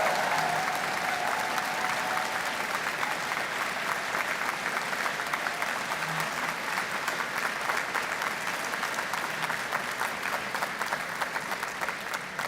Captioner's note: cheers and Applause